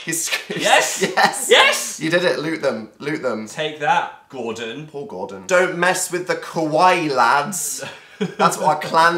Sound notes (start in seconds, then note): 7.8 giggle